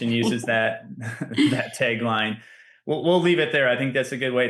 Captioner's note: laughs